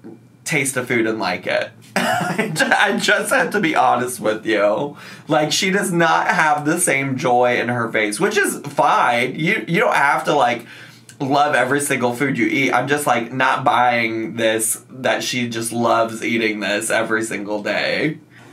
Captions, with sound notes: and like it. (laughs) I just have to be honest with you. Like, she does not have the same joy in her face, which is fine. You don't have to like love every single food you eat. I'm just like not buying this that she just loves eating this every single day.